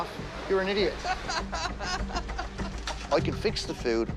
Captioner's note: laughs